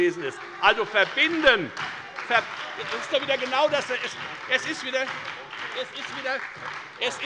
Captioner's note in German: Beifall bei der FDP und der SPD